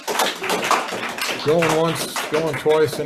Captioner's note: audience applauds